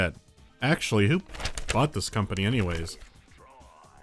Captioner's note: rustling pages